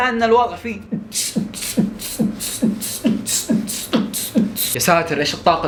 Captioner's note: beat-boxing